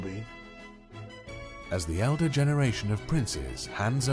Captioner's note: voiceover